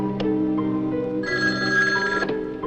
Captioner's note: telphone Ringing